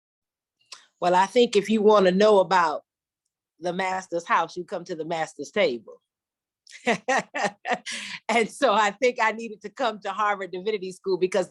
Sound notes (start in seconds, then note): 6.7 laughter